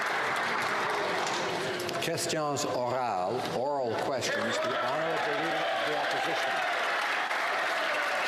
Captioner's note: some Applause